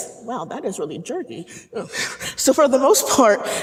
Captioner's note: laughing